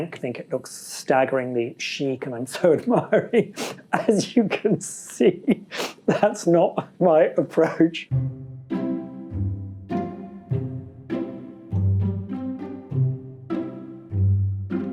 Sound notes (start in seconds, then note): 8.0 chuckling; 8.0 playful music